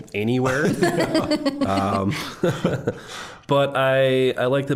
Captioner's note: all laughing